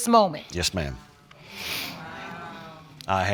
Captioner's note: audience muttering